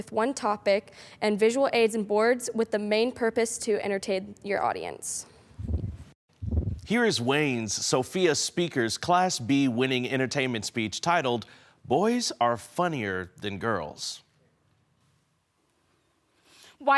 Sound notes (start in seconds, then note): 5.6 whoosh; 14.4 silent